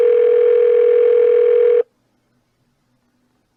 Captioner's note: phone still ringing